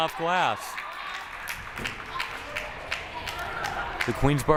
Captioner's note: crowd applauding